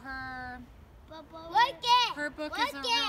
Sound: children playing

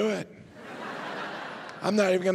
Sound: audience laughing

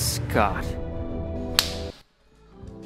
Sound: bitch slap

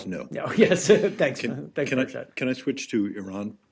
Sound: laughter

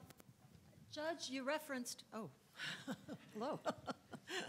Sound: laughs

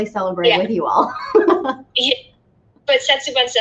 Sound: laughs

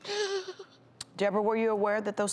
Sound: cries

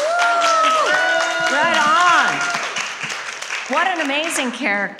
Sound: all cheering

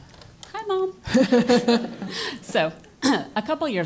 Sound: laugh; cough

